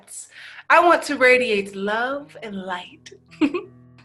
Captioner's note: laughing